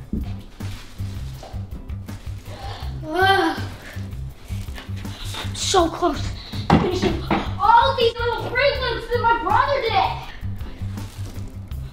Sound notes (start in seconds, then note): 3.2 grunts